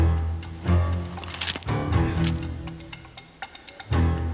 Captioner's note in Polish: dźwięk chrupnięcia